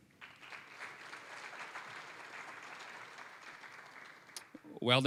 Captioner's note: applause